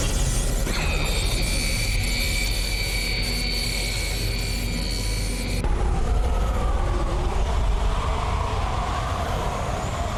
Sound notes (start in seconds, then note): 0.6 zapping; 5.6 wind whooshing